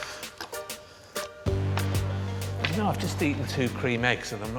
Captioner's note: circle slapping on floor